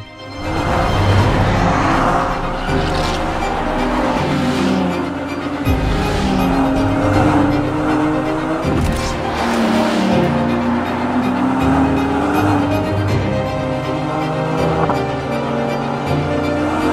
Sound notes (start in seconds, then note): 0.2 dramatic classical music; 5.8 car revving; 9.9 dramatic classical music continues